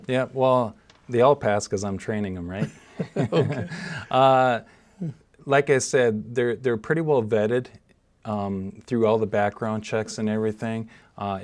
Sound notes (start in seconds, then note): 2.6 chuckling